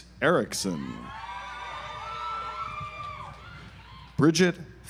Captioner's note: audience applauds